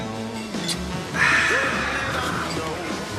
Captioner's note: sighs